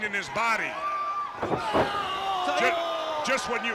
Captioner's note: crowd cheering